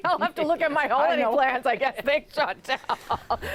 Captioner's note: laughter